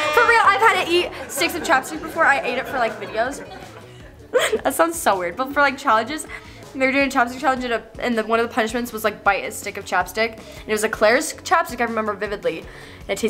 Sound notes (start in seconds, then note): 0.0 laughs; 0.0 vuvuzela blasting; 3.7 laughs